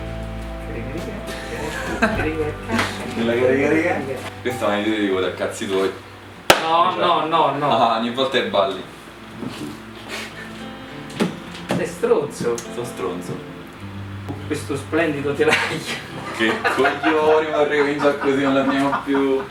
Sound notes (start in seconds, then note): 15.4 laughs